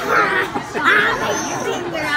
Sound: laughing

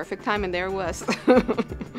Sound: laughing

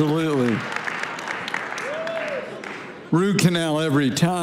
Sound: congregation applauding

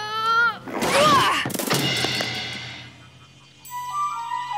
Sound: Ace and engine crashes; gentle music

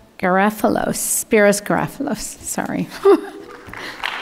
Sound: laughs; audience clapping

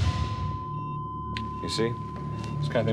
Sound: beeping

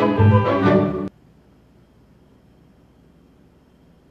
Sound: silence

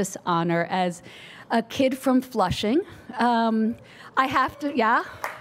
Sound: audience cheers; audience applauds

